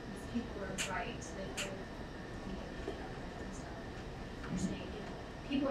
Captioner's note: speaking away from mic